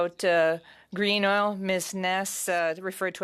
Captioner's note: speaking French